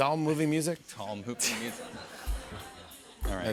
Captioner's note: laughter